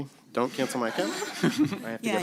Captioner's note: laughter